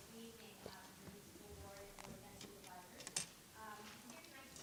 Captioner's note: speaks faintly